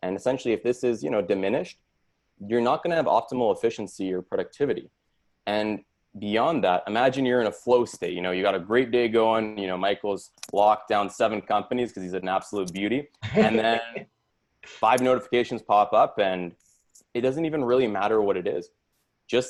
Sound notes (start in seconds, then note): 13.2 laughs